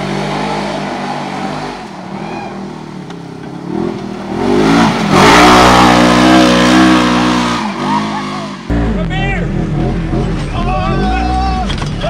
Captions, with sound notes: (engine revving) - My beer. - Oh! - Whoa!